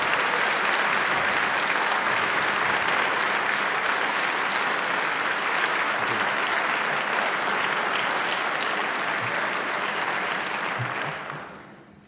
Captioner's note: applause